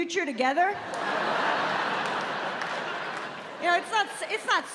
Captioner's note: laughter